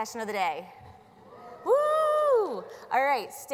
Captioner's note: audience whoos